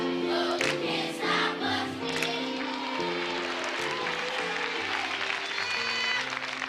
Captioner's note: applause